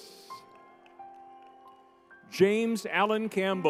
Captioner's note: crowd cheers